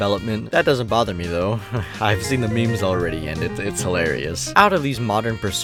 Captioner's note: chuckles